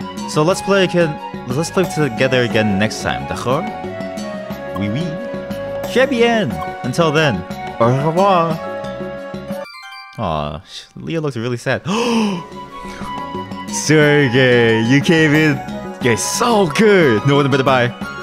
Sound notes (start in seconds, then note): 11.8 gasp